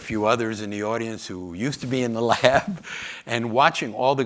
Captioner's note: chuckles